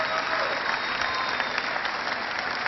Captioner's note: cheering